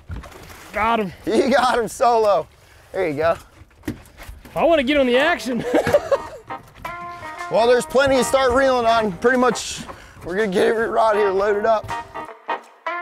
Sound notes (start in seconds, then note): 5.4 laughing